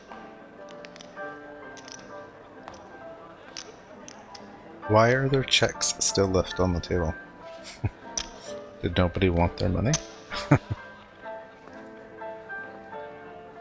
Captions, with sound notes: Why are there cheques still left on the table? [Chuckling] Did nobody want their money? [Chuckling]